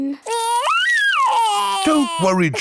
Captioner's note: crying